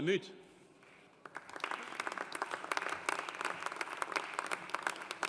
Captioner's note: audience applauding